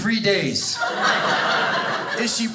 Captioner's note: audience laughing